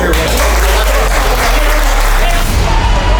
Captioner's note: clapping